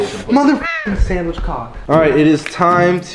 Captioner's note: bird noise